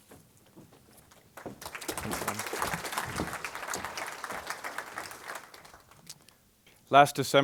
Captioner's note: applause